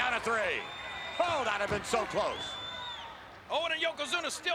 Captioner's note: attendees cheering